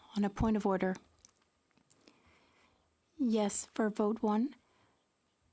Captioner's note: speaking French